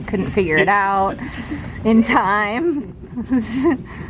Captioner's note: laughs